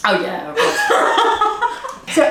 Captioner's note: laughing